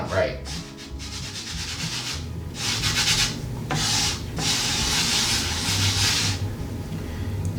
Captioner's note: scratchy noise of flour rubbing